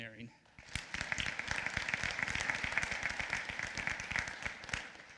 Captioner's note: applause